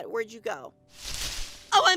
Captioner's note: bush rustles